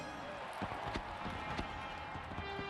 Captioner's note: crowd cheering